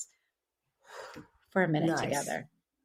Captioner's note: exhales